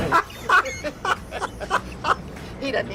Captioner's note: laughs